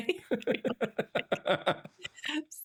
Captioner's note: both laughing